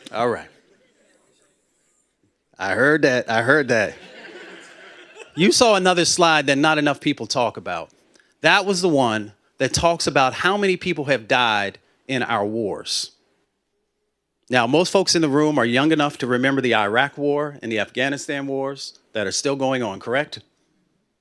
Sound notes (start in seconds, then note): 3.9 laughter